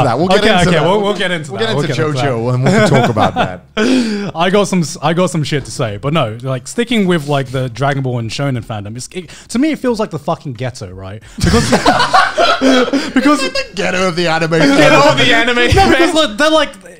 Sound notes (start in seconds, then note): 2.6 laughing; 11.3 men laughing